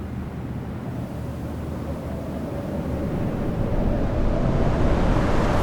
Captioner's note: wind blusters